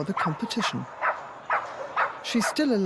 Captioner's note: Posh continues barking